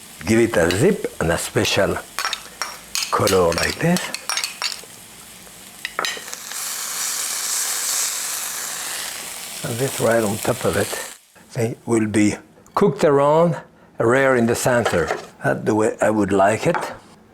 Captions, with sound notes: Give it a zip and a special color like this. (sizzling) And this right on top of it. It will be cooked around, rare in the center. That the way I would like it.